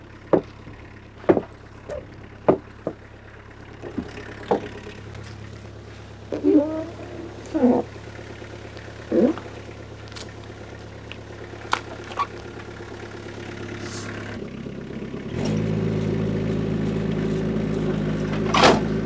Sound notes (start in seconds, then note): 1.2 wood slab thudding; 6.2 skid steer engine humming; 6.2 wood slab squeaking